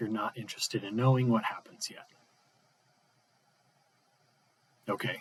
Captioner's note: pause